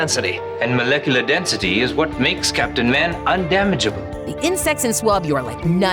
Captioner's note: none